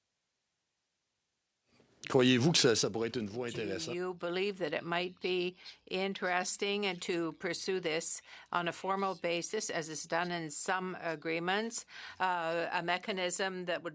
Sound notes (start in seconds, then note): 8.0 speaking French